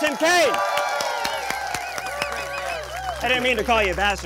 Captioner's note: crowd applauding and cheering